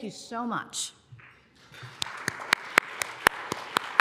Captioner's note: applause